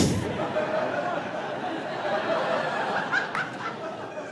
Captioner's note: audience laughing